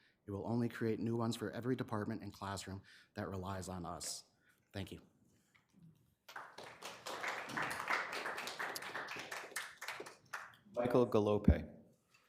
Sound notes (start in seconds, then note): 6.2 attendees clapping